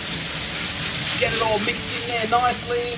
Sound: sauce sizzles

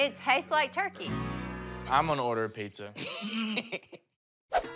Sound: laughs

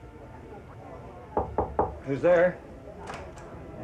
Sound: knocks

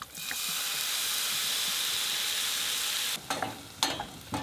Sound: liquid sizzling

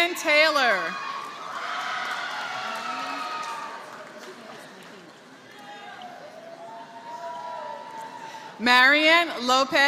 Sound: applause

